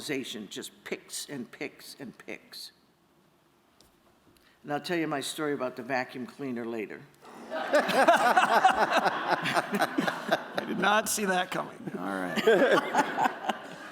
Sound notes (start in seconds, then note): 7.2 laughter